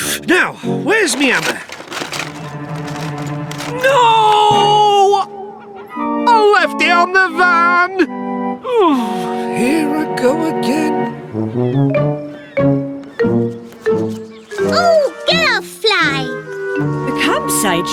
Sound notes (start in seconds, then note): 4.6 groaning